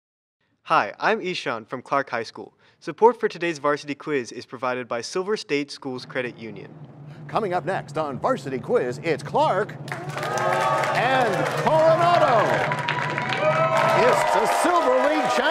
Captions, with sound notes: Hi. I'm Eshaan from Clark High School. Support for today's Varsity Quiz is provided by Silver State Schools Credit Union. Coming up next on Varsity Quiz, it's Clark... (cheers and applause) And Coronado! (cheers and applause) It's the Silver League